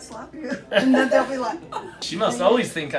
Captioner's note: laughter